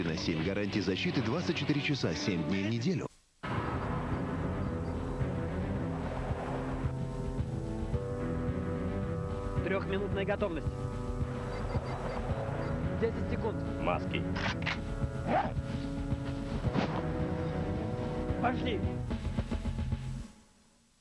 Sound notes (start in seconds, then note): 3.5 disturbing music; 14.3 weapon reloading sound